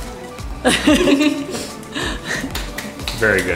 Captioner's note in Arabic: مجموعة تضحك